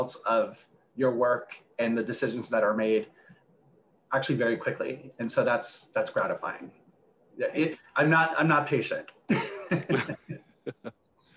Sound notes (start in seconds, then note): 9.3 laughs